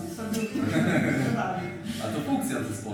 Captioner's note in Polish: śmiech